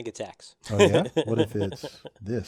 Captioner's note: laugh